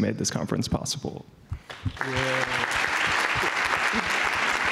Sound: applause

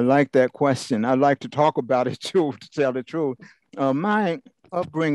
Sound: laugh

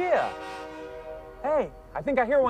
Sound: train whistle blows

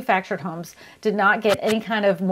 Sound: whooshing

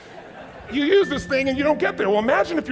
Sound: audience chuckles

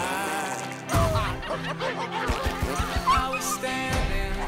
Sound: barking

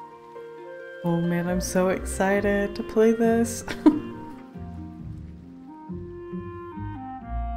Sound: laughs

